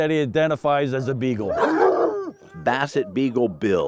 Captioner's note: dogs barking